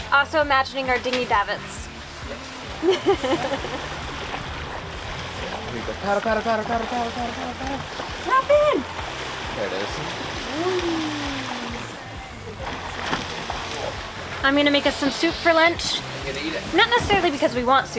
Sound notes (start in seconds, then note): 2.8 laughing; 6.3 muttering